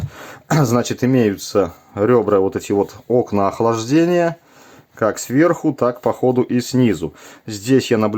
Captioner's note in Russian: откашливается